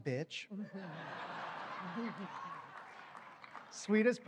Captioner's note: laughter